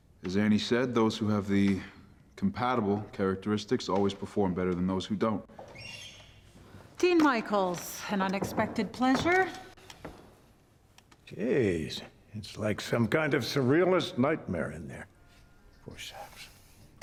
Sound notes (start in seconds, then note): 5.6 door creaking